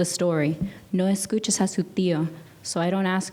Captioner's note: speaking in a foreign language